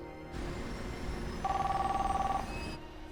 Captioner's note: phone ringing